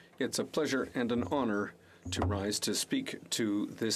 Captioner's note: speaking French